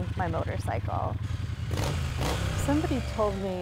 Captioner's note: engine revving